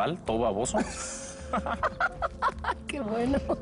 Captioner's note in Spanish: Ríe